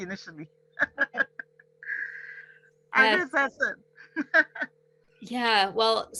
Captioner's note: laughs